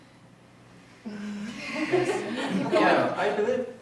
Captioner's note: audience giggling